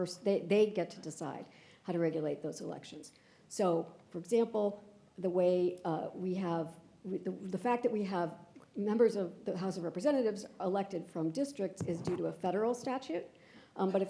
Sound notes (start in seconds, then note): none